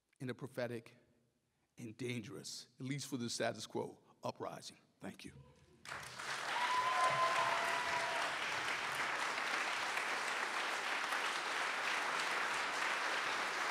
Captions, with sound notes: in a prophetic and dangerous, at least for the status quo, uprising. Thank you. (audience cheers and applauds)